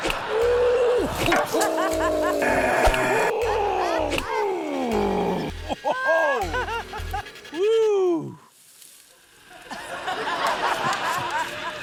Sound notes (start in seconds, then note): 0.7 yelps; 2.5 groans; 2.5 growls softly; 4.3 grunts; 9.5 laughter